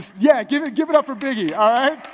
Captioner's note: light applause